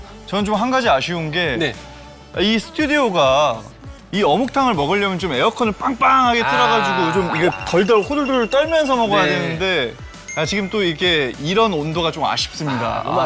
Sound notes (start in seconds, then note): 6.4 shivering